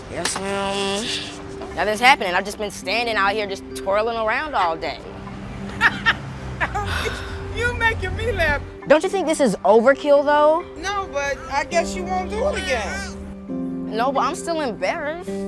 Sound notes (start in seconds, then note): 6.5 woman laughing